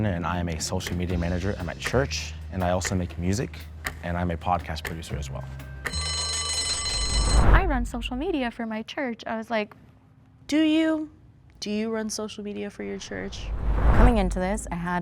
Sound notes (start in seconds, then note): 5.9 bell rings